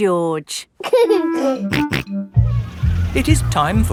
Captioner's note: giggling and snorting